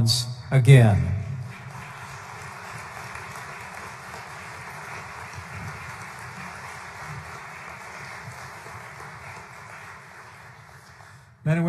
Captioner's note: applause